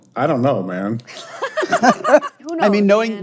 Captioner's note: all laughing